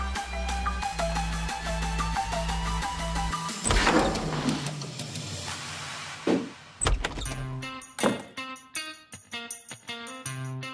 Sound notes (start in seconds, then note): 3.6 door opening; 7.8 suspenseful music